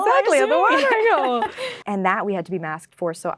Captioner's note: laughing